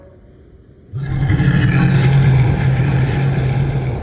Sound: Yeti Roar

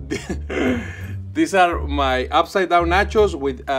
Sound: laughs

